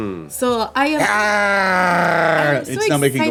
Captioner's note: gurgly growling